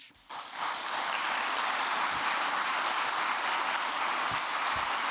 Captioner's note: audience applauding